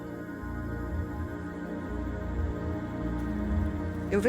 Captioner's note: forest sounds